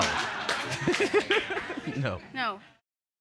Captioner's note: laughter